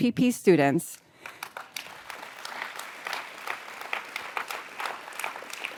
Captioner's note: audience applauds